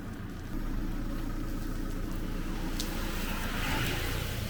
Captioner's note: engine running